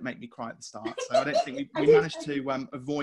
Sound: laughing

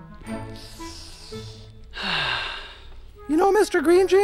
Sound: sniffing

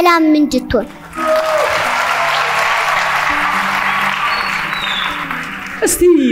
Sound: applause

